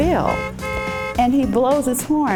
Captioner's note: car honks